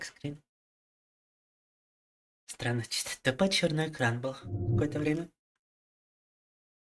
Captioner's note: speaking in foreign language